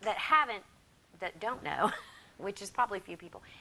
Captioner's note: laughs